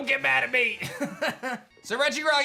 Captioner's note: laughs